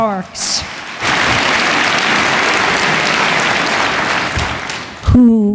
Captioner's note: applause